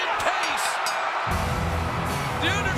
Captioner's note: audience cheering; bell ringing; ominous music